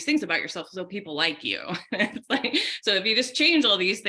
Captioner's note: laughing